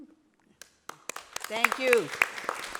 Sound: applause

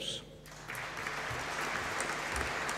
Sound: applause

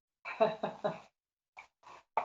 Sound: laughter

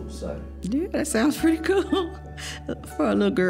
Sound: laughing

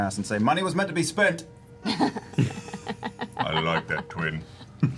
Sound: laughs

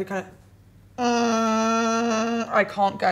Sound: low, buzzing sound

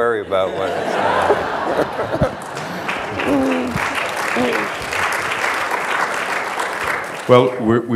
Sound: applause

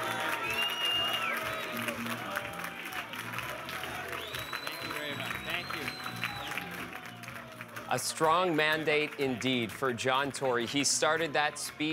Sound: cheers and Applause

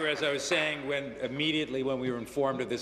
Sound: applause

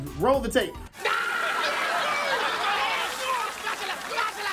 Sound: screaming

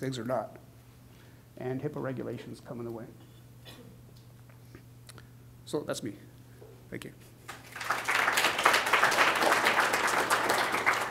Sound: clapping

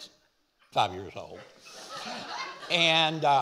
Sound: audience laughing

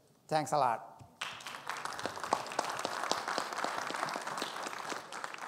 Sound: audience clapping

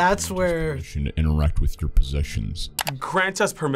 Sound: voice-over

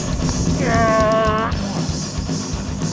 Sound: grunts

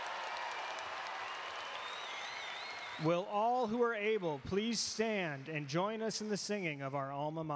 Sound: cheering and Applause

